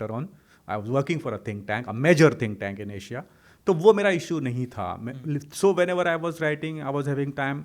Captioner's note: hindi